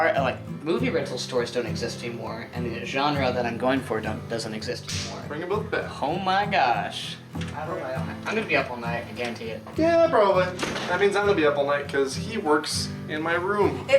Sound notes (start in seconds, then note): none